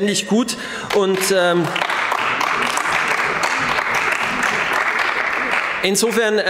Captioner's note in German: Beifall bei BÜNDNIS 90/DIE GRÜNEN